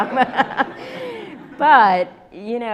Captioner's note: laughs; audience laughs